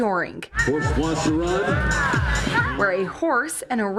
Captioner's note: announcer sounds